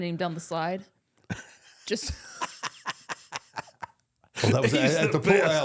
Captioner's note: both laugh